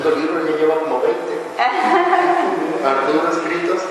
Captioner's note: laughter